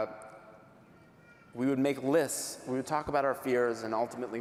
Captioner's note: none